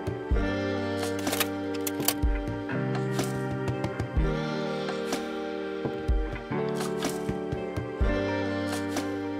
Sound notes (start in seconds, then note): 1.0 slide clicks